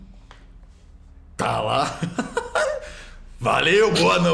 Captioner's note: laughs